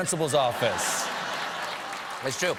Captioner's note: laughter; applause